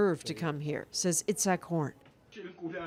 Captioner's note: speaking alternate language